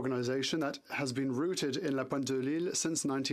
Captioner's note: speaking French